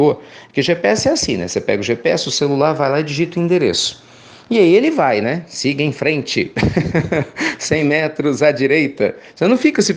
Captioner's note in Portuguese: risos